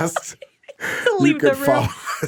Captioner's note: laughing